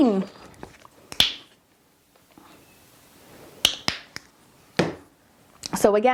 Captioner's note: paint holders clicking